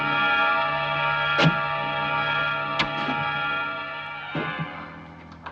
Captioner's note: footsteps getting closer